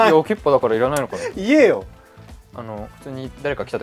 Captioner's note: laughs